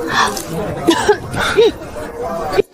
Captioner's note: cough, cough